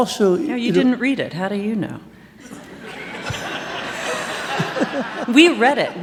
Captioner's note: laughter